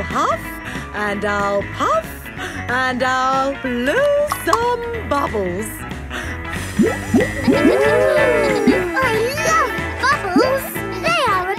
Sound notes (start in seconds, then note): 8.1 kids gasping and laughing